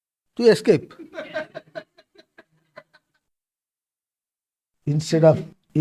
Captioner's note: laughs